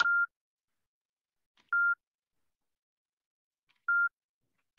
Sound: beeping

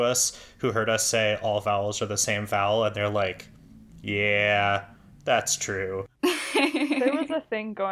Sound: laughs

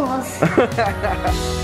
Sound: festive music; laughs

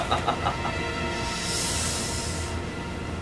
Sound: laughs; inhales

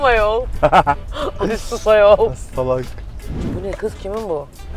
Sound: laughs

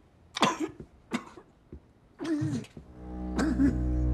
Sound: Quentin coughing; tense music

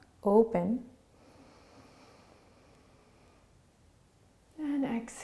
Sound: inahling

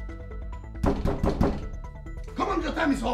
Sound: knock

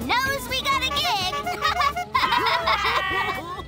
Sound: laughing

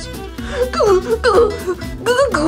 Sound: Scooby stammers

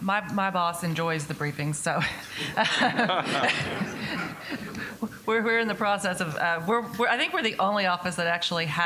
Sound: laughs

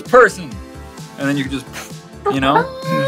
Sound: blows

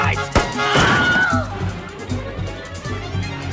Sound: screams

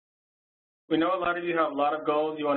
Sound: voiceover

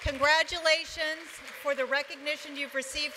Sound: applause

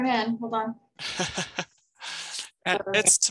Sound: chuckles

